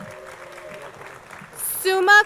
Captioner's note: crowd applauding